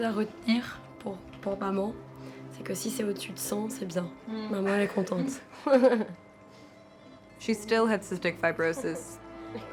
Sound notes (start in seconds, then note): 5.1 laughing